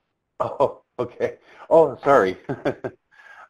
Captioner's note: laughs